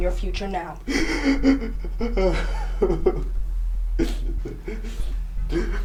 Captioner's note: Cameron sobbing dramatically